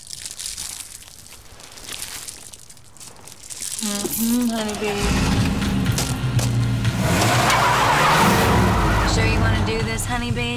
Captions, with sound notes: Mm-hmm, Honey Bee. (engine starting) (engine revving, tires squealing) You sure you want to do this, Honey Bee?